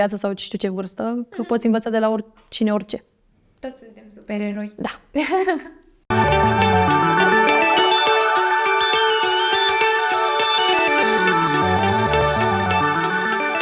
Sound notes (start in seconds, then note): 5.1 laughs